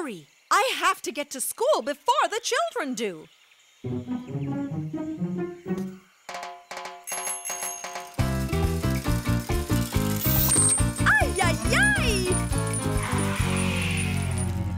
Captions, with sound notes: I have to get to school before the children do! [bike bell ringing] -[metallic grinding] -Ay, ay, ay!